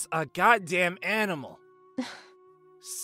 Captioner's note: disgruntled sigh